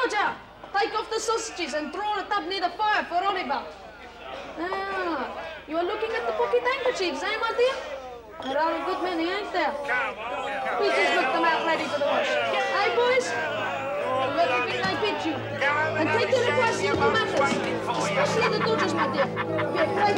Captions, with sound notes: Good job, take off the sausages and draw a tub near the fire for Oliver. Ah, you are looking at the pocket handkerchiefs, eh? (jeering from crowd drowning him out) (suspenseful music)